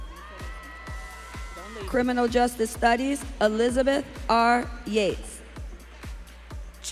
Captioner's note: audience cheering